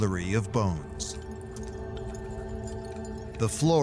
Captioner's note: soft clinking